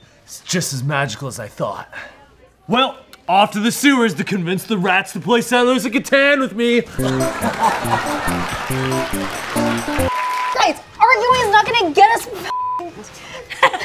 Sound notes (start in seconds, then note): 6.9 audience laughs; 6.9 upbeat music; 12.5 beep